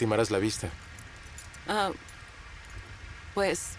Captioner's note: rain patters